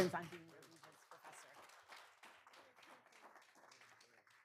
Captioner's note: people clapping